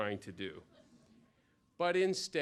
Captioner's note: laughter